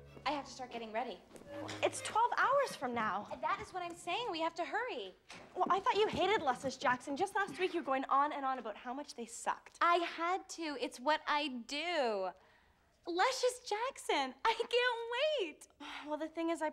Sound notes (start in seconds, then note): none